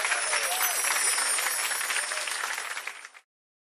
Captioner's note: jingling